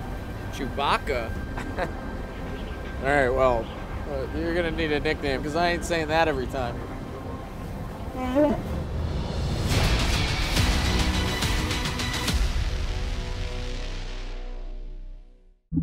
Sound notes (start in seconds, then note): 1.6 laughs; 8.0 roars softly; 8.9 exciting music